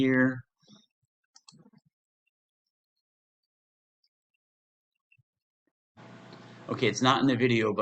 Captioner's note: pause